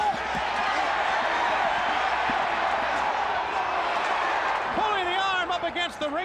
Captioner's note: crowd cheering